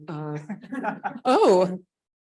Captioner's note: laughing